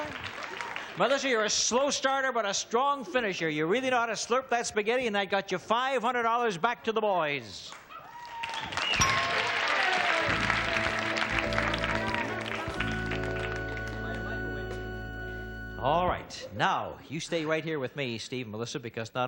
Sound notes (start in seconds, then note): 8.1 applause